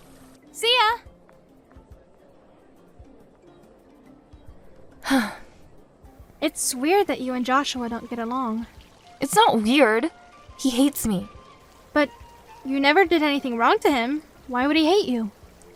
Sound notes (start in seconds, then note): 5.0 sigh